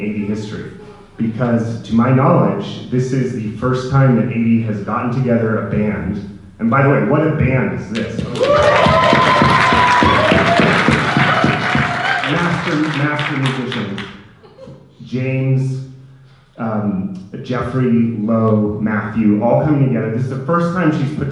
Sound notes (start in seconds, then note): 8.0 audience cheering and clapping